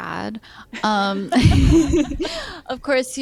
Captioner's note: laughter